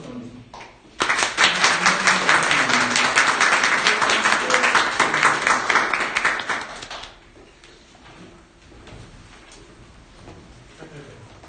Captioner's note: applause